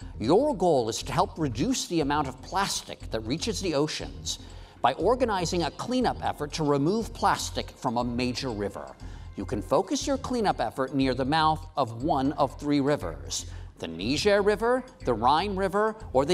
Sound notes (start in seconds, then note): none